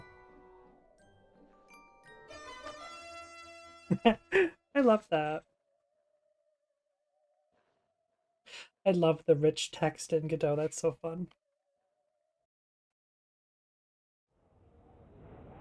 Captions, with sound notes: (laughs) i love that i love the rich text in godot that's so fun